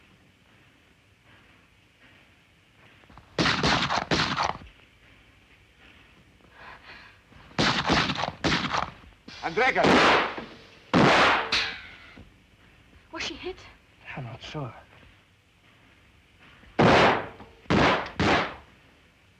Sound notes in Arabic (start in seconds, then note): 3.4 طلقات نارية; 7.4 اطلاق نار; 9.2 إطلاق نار; 10.9 اطلاق نار; 17.6 طلقات نارية